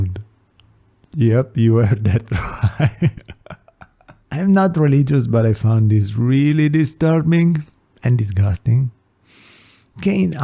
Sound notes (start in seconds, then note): 1.9 laughs